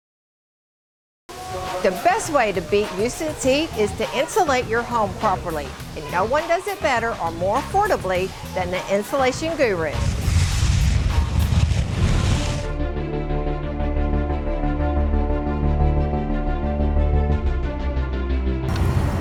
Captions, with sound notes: - The best way to beat Houston's heat is to insulate your home properly. And no one does it better or more affordably than the Insulation Guru. (whooshing) (energetic music)